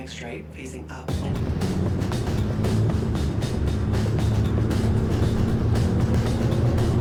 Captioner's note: vehicle revving; energetic music